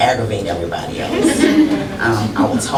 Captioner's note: laughter